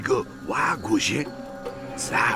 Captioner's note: speaking vietnamese